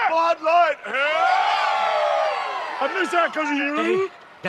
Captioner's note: crowd celebrates